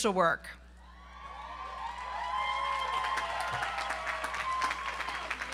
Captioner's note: audience applauds and cheers